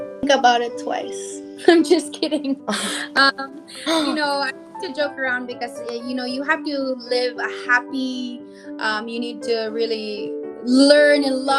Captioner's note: giggles